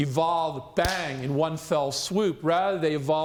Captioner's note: claps hands